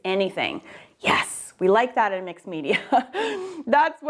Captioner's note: laughing